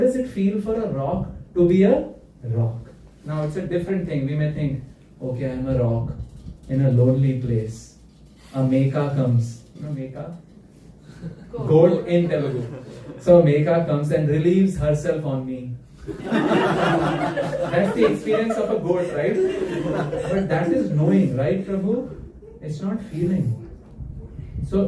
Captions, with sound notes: does it feel for a rock to be a rock? Now it's a different thing. We may think, okay, I'm a rock in a lonely place. A me comes gold in. So make comes and relieves herself on me. [laughter] That's the experience of a goat, right? But that is knowing, right, Prahu? It's not feeling.